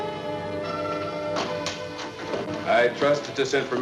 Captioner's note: door opens